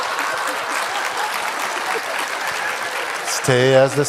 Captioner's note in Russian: громкий смех и аплодисменты в зале